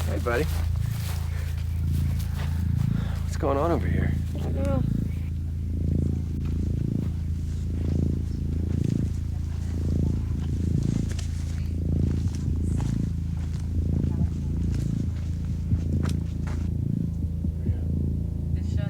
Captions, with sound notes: - Hey buddy. What's going on over here? - I don't know. (dramatic music) (heartbeat thumping) (dramatic music continues)